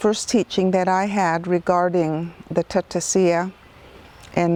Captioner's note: speaks in foreign language